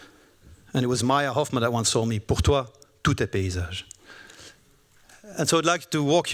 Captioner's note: speaking french